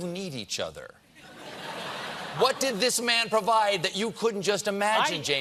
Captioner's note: laughter